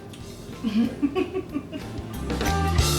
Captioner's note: laughs